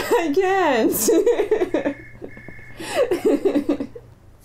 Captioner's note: laughter